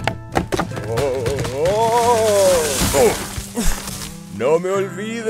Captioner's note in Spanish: señor litre grita